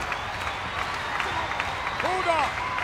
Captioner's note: audience clapping